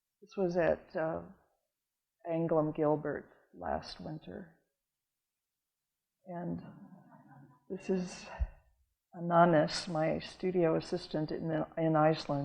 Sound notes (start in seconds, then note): none